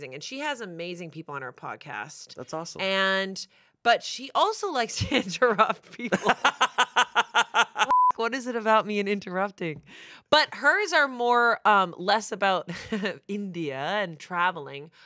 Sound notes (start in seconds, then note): 6.1 everyone laughs; 7.8 beep